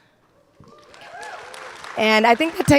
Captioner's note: audience applauding and cheering